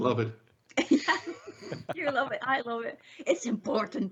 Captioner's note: laughs